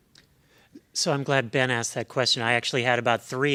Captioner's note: voiceover